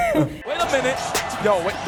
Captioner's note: laughing